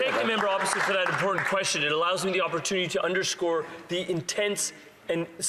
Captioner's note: some Applause